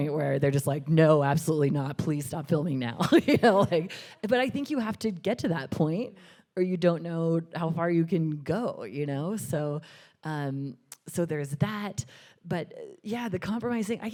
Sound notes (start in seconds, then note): 3.2 chuckles